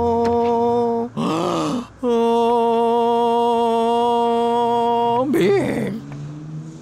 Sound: inhales

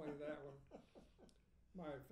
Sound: laughing

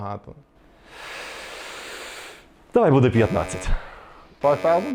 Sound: heavy sigh

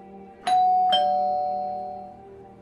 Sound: calling bell rings

